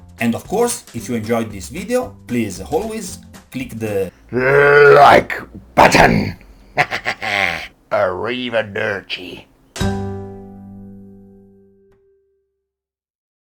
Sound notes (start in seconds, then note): 7.8 BAD Italian